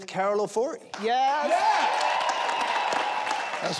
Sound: audience cheers

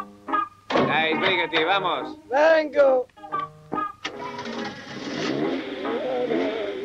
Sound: Spanish accent

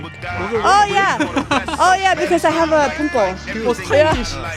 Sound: laughing

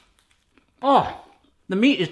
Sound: groans

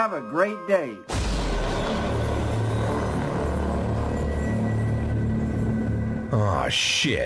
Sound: thunder + ominous music

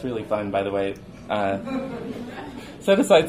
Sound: audience chuckles

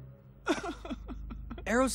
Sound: crying

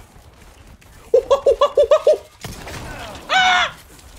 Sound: monke noises

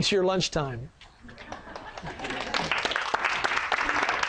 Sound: sound of laughter and applause from audience

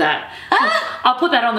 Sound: laughs

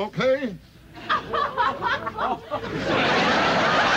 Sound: laughter

